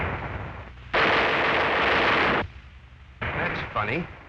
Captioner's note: gunfire